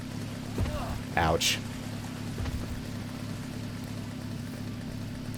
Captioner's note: Scavver grunts in pain